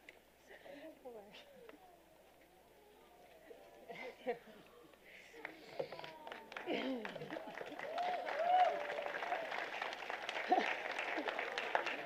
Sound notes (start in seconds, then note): 5.4 applause